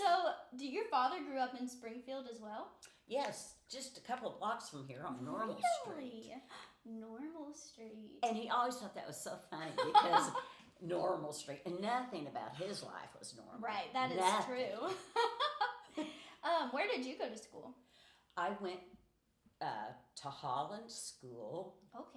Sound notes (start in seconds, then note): 14.8 laughing